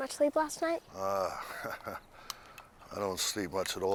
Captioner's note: chuckles; Bill groans